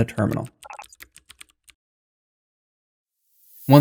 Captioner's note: beep